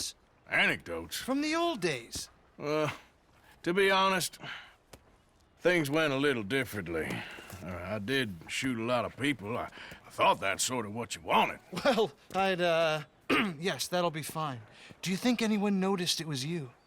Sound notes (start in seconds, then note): 13.2 clears throat